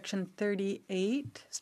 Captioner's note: speaking French